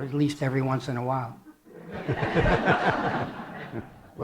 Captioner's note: laughter